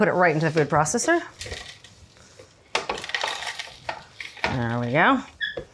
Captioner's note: almonds clattering